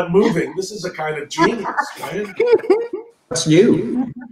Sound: members laugh

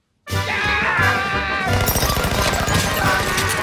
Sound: sudden silence; both scream

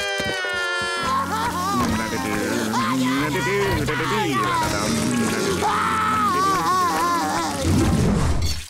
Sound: crying; humming; crying

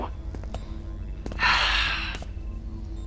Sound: sighing

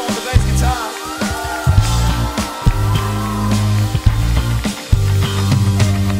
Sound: audience cheers

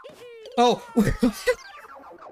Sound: laughs in surprise and pain

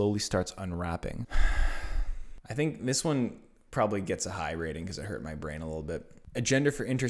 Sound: sighs

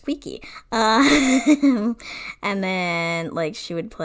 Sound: laughs

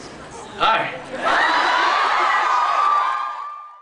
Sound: cheers and screams

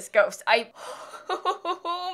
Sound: murderous laughter

